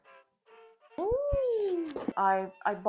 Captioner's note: weird clown mouth sounds